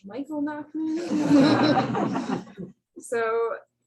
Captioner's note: laughter